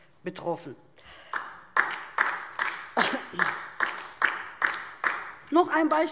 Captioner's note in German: Beifall DIE LINKE